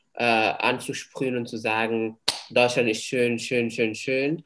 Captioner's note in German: klatscht